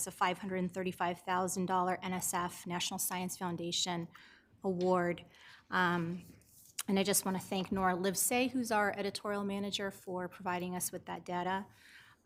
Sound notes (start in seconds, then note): none